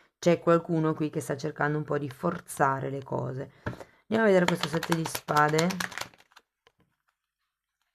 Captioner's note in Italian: Applauso